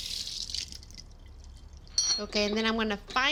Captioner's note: splashing; utensil clinks